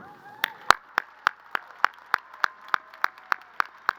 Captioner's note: crowd applauding